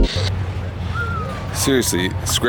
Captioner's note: whistling